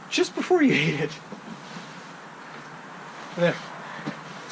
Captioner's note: laughs